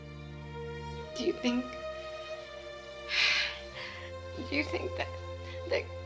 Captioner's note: sighing